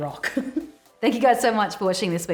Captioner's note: laughter